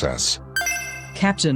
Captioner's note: PIA Chime